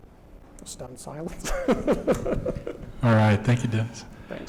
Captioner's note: laughs